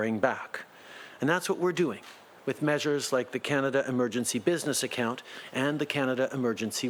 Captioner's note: speaking French